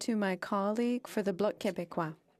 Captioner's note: speaking French